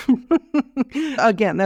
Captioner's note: laughs